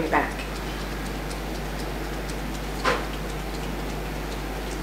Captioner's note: fingers tapping